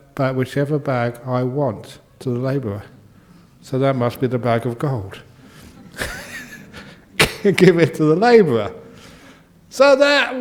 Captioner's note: laughs